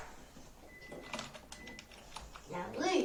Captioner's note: typing